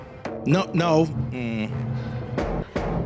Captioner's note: irritated “Mm” sound